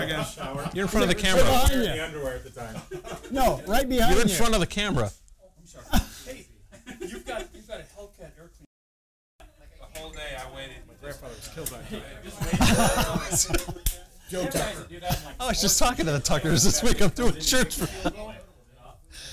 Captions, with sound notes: you're in front of the camera. Look behind you. Right behind you. You're in front of the camera My grandfather was killed by a Tucker. Joe Tucker I was just talking to the Tuckers this week, I'm doing shirts for them (laughter)